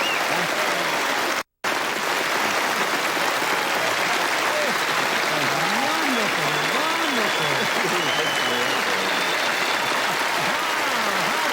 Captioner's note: applause